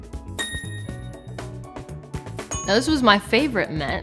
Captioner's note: phone dinging